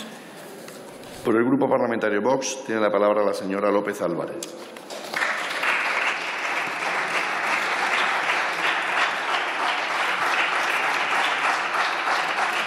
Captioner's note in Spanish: Aplausos